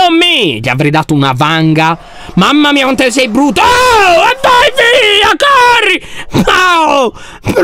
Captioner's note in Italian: urla